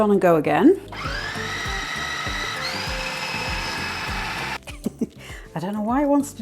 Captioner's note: food processor rumble